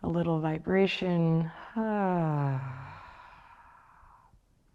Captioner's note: sighs